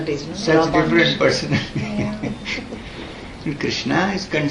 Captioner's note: laughs